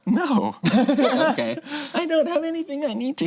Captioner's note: laughing